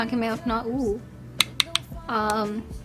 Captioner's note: taps brush